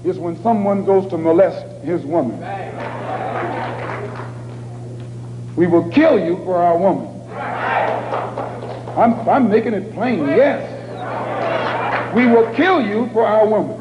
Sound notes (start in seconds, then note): 2.7 applause